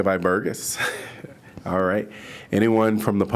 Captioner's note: laughter